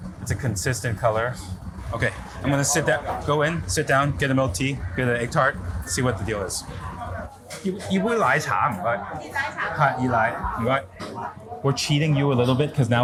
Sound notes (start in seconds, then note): 7.7 food reviewer speaks in foreign language; 9.4 seller speaks in foreign language; 10.2 food reviewer speaks in foreign language